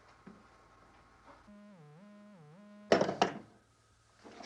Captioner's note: line buzzing